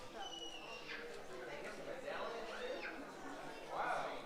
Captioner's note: audience chattering